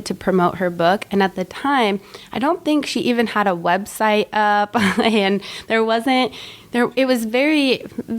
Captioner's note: chuckle